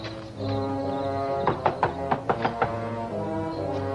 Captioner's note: knocking continues